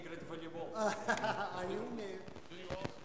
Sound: russian speech; chuckles

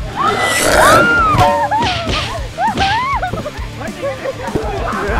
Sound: screams

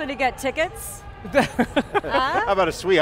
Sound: laughter

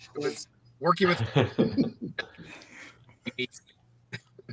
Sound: all laughing

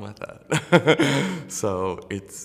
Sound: laughter

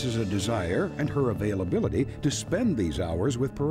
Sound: none

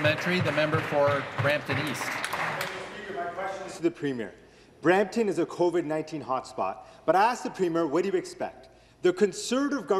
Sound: some Applause

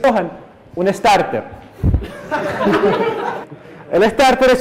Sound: uproarious laughter

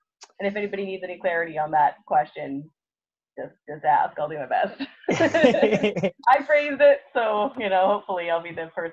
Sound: laughs

